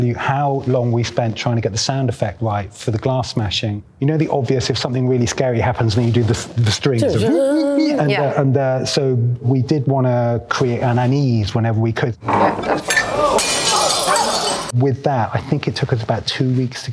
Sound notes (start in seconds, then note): 7.0 both imitate violins playing; 12.8 glass smashing; 12.9 patrons exclaiming